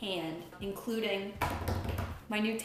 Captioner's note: knocks on table